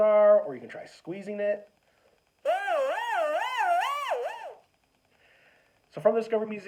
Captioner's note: buzzing sound